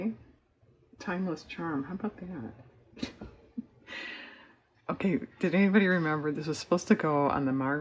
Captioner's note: laughs